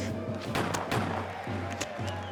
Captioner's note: distant gunshots; distant cheering